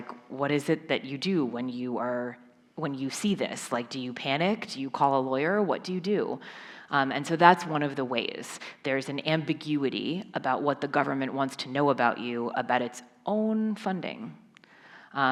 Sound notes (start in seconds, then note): none